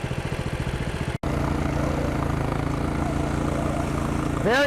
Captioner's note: bale wrapper sound